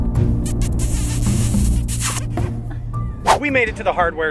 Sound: kissing noises

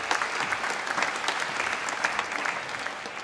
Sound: applause

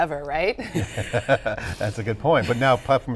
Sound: laughing

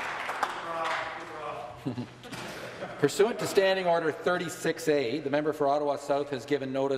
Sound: some Applause

